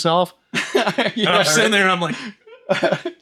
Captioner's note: laughing